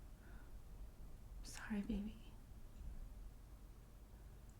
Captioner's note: whispering